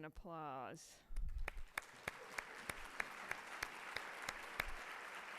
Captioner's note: audience applauds